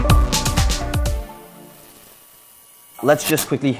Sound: sign sizzling

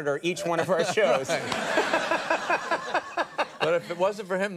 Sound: Jerry and audience laugh

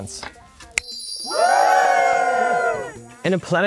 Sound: people cheering

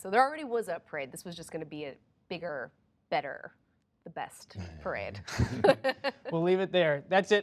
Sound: laughter

